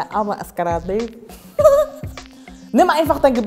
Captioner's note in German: Sie lacht